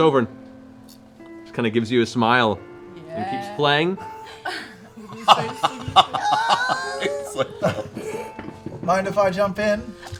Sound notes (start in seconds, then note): 4.2 laughter